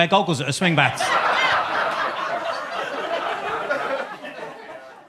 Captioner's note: audience laughs